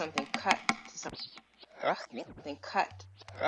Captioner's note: voice rewinds